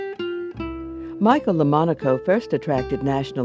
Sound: voiceover

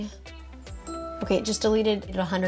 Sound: bell dinging

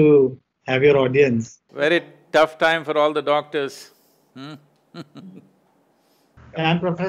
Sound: laughs

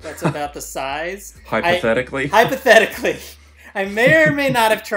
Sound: laughs

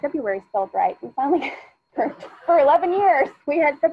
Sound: laughs

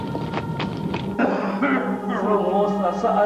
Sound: Luis coughing intensely

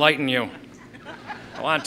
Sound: laughing

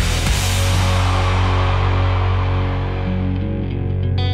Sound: crowd cheering; crowd applauding; relaxed rock music

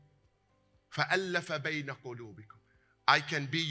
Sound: Arabic

